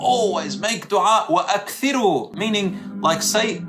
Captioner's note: Arabic